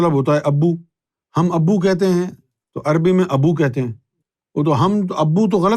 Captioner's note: in Urdu